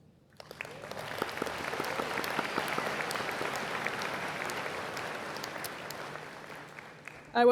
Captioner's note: applause